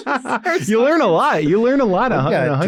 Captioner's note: laughs